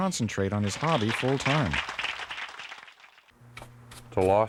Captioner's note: audience applauds